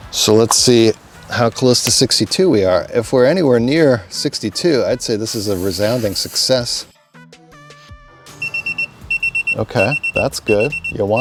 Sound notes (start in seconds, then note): 8.4 gauge beeps